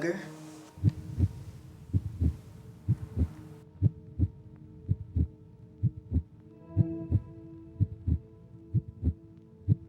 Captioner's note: heartbeat sound